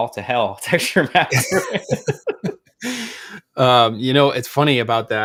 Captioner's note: both laughs